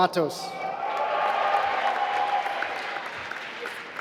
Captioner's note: applause